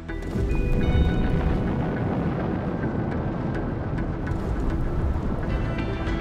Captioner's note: gentle music; explosion blasts